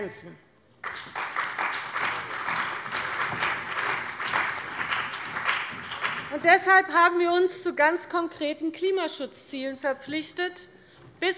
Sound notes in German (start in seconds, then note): 0.8 Beifall bei der CDU und dem BÜNDNIS 90/DIE GRÜNEN